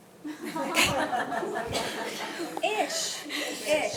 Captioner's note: attendees laughing